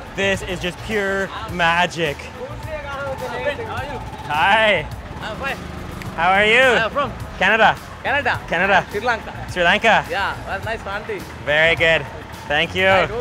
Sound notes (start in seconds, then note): 2.5 distant chattering; 5.6 speaking foreign language